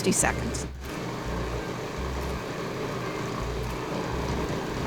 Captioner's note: food processor whirring